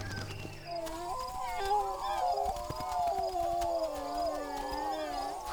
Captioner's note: dogs howling softly